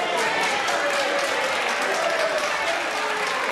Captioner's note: aplause